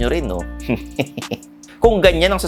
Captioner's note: chuckles